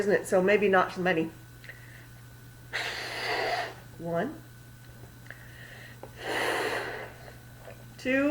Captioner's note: blows into the balloon